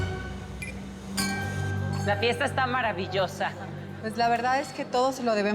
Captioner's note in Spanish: sonido al chocar las copas